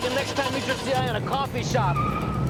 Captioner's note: none